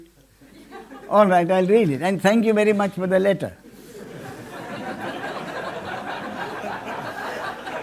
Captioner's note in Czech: smích